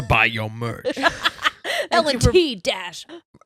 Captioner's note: laughing